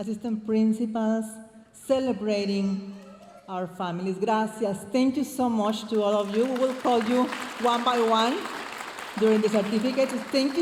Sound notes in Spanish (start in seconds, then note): 5.0 hablando en inglés